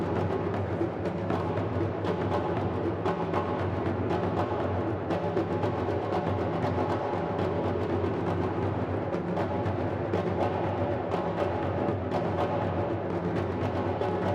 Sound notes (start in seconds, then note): none